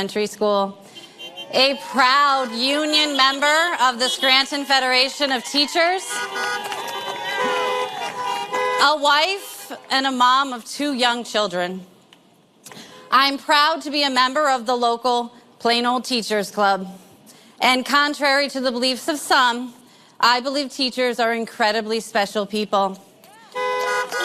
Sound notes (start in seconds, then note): 12.8 horns honking